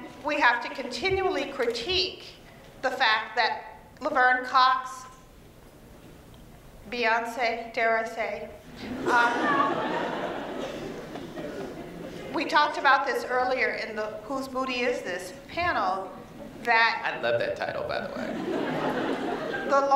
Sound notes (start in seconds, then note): 8.8 laughter